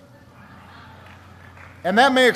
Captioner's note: laughter